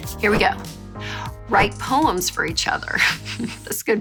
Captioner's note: laughing